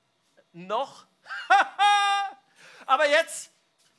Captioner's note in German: lacht